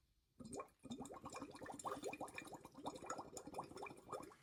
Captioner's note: water bubbles